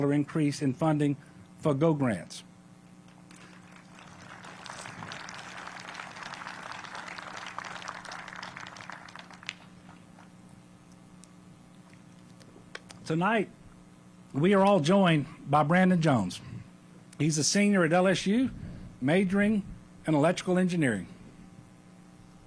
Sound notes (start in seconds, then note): 9.7 applause